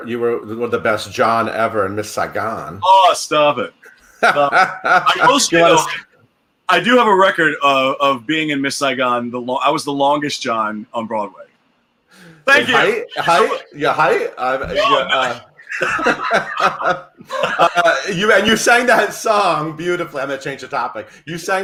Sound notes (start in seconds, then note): 3.9 laughs; 14.6 laughs